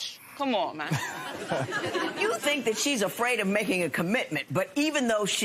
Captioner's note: laughter